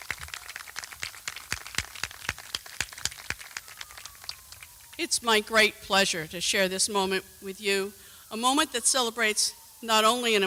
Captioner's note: applause